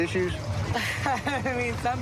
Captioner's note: laughs